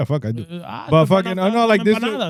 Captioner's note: speaking In Foreign Language